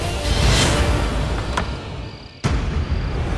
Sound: door opens

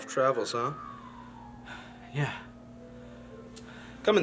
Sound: sigh

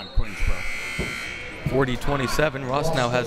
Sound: buzzer ringing

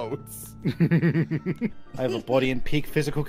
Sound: chuckling

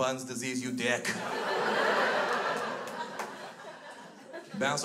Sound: crowd laughs

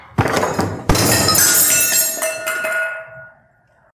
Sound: glass breaking

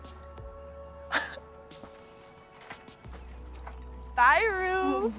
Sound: Jules chuckles

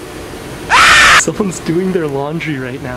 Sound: animal yowl

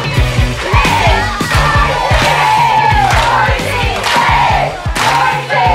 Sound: chanting

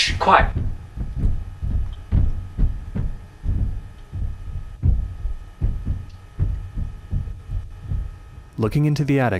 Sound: low, steady pounding

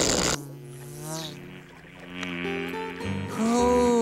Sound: buzzing

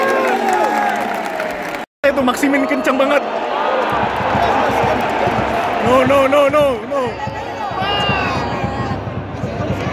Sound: clap

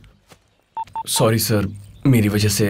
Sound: mobile beeps

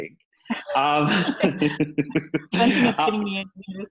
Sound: both chuckle

